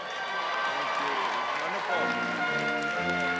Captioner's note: applause